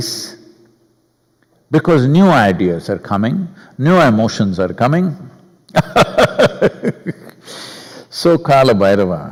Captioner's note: laughs